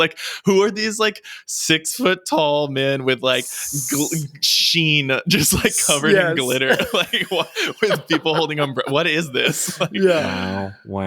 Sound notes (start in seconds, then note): 5.4 laughs; 5.4 chuckles